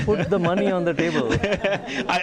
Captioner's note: laughter